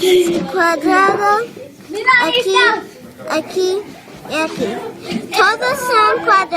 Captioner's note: foreign language